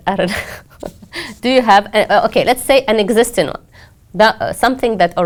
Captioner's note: laugh